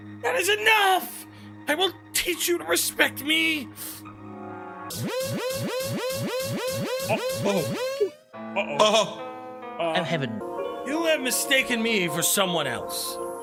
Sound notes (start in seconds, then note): 5.1 specters squeakinggggg; 5.1 stammers